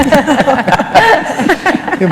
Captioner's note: laughter